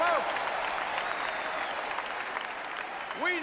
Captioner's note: applause